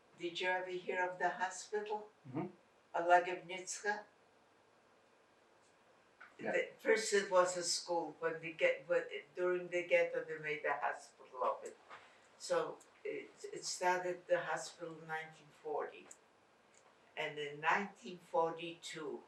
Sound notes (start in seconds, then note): 3.7 non-english